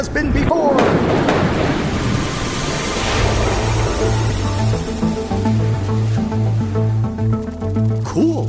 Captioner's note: machine noises